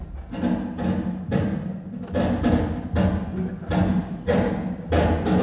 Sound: door creaking; banging

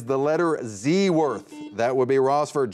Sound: buzzer beeps

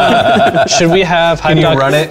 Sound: laughing

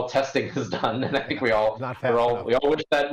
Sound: chuckling

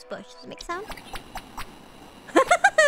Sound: chippy video game bird sound effects

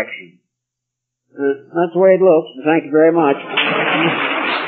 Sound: applause

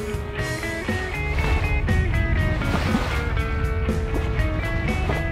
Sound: water splashing; upbeat music

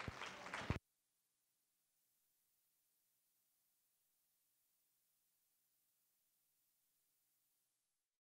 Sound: applause; silence

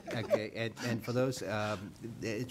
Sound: laughing

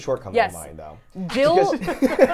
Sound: laughs

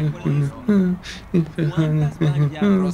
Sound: approaching voices

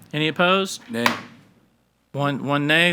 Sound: gavel bangs

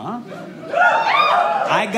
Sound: audience cheers

